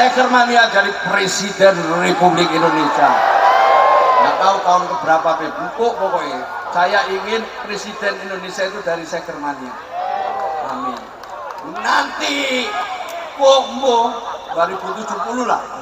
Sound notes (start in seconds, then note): 10.2 applause